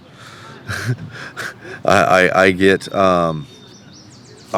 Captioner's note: chuckles